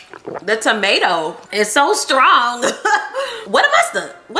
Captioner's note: laughs